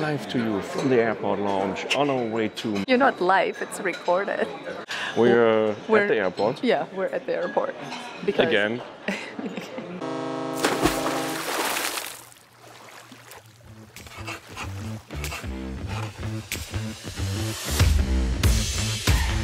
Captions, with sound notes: - Coming live to you from the airport lounge on our way to... - You're not live. It's recorded. - We're, at the airport. - Yeah we're at the airport. - Because - Again (laughs) (Ship horn honks) (Upbeat music)